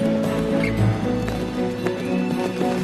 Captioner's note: announcer over PA